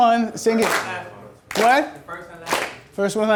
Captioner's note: voiceover